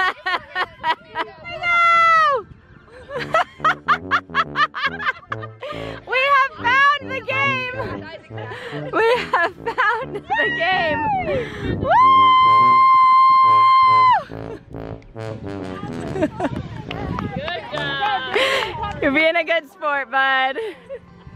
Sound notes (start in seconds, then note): 0.2 laughing; 10.2 female cheering; 11.0 tuba music; 16.8 clapping